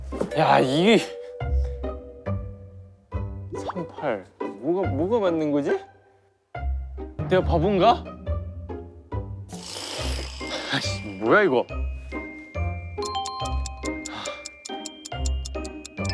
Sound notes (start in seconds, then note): 4.1 hesitant